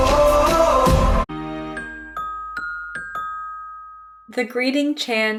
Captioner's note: chimes jingle